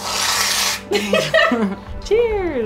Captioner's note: laughing